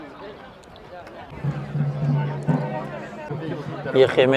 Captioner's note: people speaking